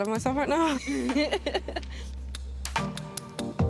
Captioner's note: laughter